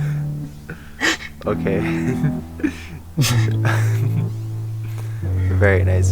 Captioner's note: laughs